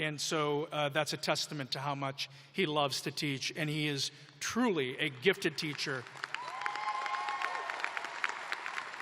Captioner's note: applause